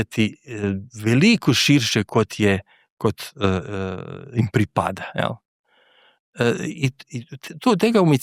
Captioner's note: clears throat